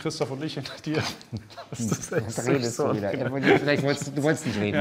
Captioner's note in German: lacht